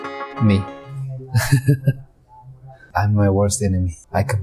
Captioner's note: laughs